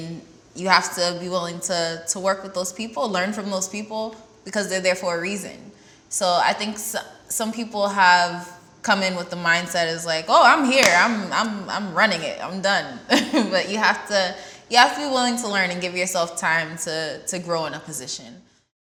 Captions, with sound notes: and you have to be willing to work with those people, learn from those people, because they're there for a reason. So I think some people have come in with the mindset of oh, I'm here, I'm running it, I'm done. (laughs) But you have to be willing to learn and give yourself time to grow in a position.